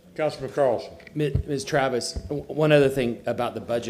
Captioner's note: sounding gavel